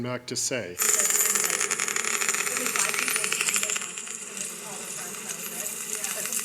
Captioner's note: gadget noise